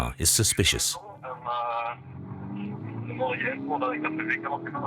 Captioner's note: French spoken audio